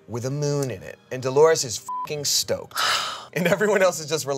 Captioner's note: beep